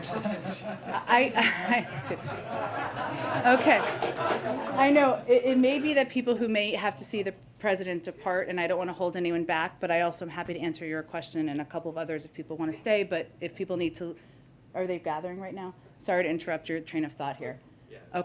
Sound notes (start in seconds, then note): 5.3 laughter